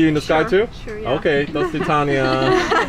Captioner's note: speaks in foreign language; women laughing